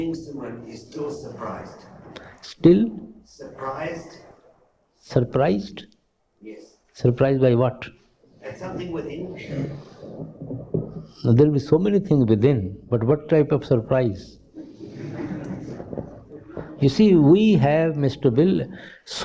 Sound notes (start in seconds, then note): 14.5 laughter